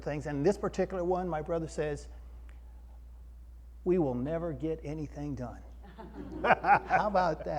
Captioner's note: audience laugh